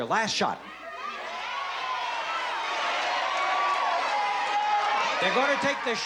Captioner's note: audience shouting